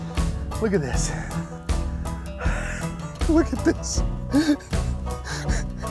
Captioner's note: laughs